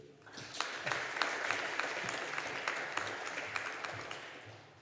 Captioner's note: audience applauding